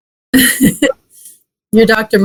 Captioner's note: laughs